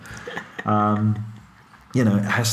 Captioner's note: chuckles